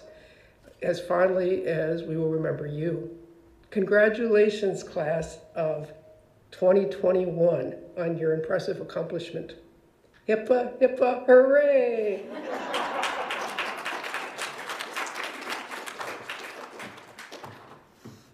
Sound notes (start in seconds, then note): 12.2 audience laughs